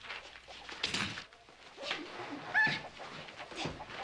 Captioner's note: Tracy shrieks